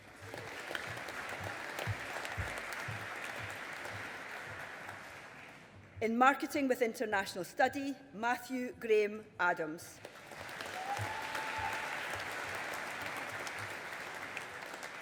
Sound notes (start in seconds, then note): 0.0 audience applauding; 10.0 audience applauding